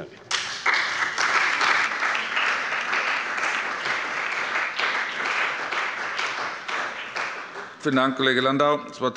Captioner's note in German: Beifall bei der CDU und dem BÜNDNIS 90/DIE GRÜNEN